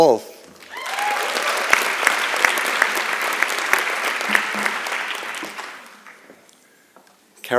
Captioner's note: applause and Cheering